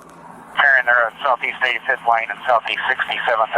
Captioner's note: radio chatter